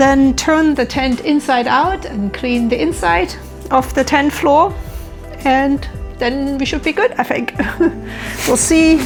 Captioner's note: laughs